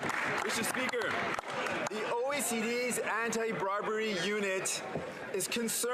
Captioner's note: some Applause